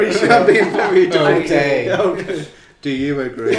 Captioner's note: laughing